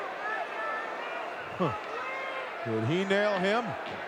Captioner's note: audience cheering